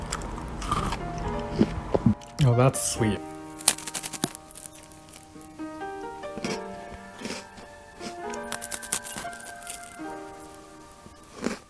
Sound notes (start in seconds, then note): 0.0 chews and gulps; 3.2 crunchy; 5.2 ambient rosemary eating noises